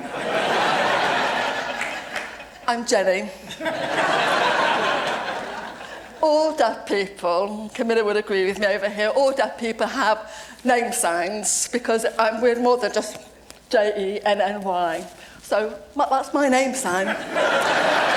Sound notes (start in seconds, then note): 0.0 laughter; 3.5 audience laugh